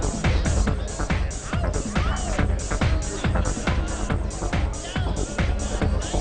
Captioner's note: people chatter loudly in the background